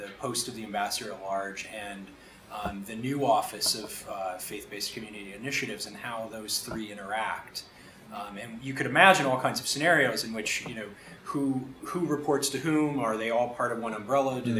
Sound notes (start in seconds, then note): none